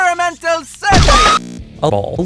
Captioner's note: violent scream and moist noises